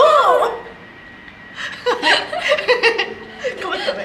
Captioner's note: laughter